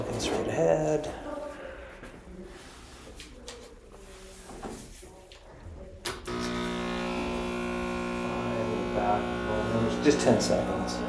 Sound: vibration noise

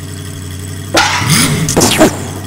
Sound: slam; explosion

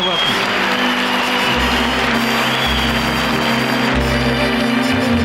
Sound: audience clapping; tranquil music

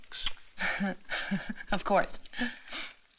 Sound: chuckles

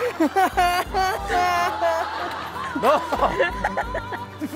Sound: sobbing

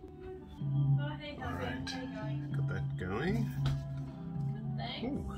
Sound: radio sound continues

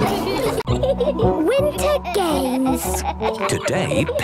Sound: giggling

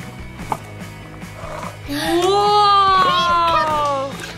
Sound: gasps in amazement

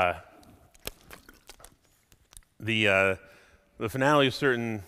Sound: none

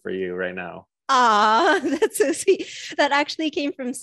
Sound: chuckles

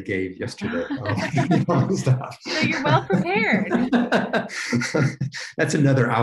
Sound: laughing

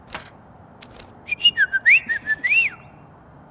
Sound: Mimi whistles

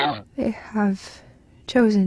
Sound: none

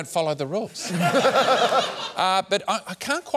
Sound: laughter

